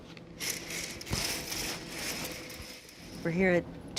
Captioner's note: curtain rattling